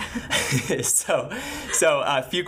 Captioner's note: laughing